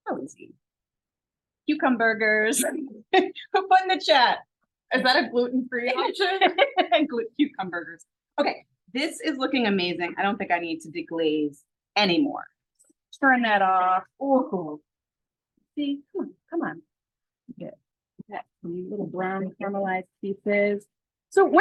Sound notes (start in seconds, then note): 5.9 laughs